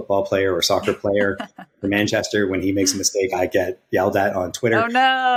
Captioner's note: <Laugh>